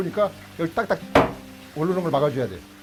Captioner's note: hammering sound